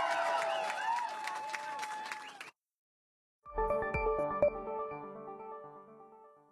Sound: cheering and Applause

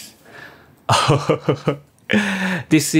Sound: chuckles

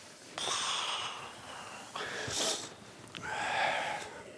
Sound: none

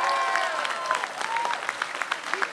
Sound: applause

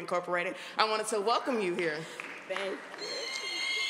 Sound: applause

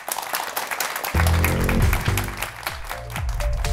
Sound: applause

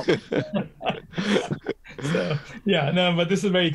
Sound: laughter

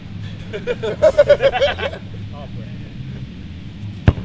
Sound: chuckling

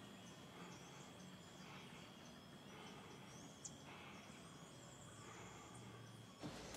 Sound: Negro breathes heavily

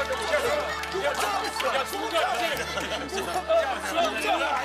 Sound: laughing

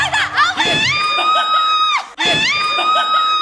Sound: shouting

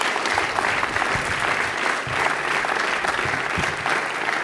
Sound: applause

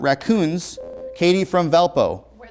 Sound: beeping

